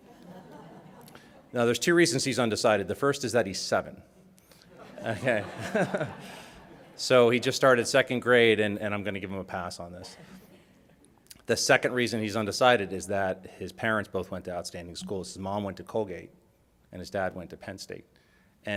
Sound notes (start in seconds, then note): 0.0 audience chuckles; 4.7 audience laughs